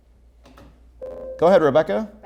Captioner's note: ringing